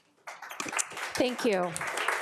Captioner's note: attendees applauding